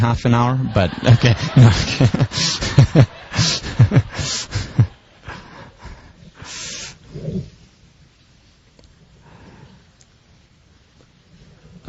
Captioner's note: laugh